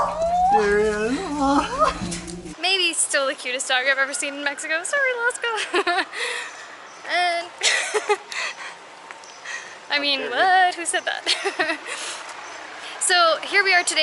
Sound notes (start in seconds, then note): 7.6 laughter